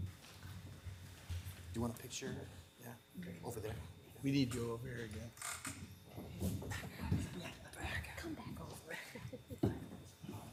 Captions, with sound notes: - Do you want a picture? Yeah? Okay, over there. - We need to go over here again. (participants chattering)